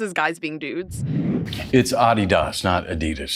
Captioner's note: screen whooshing